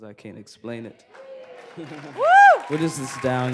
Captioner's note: cheers and applause